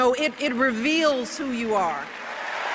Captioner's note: applause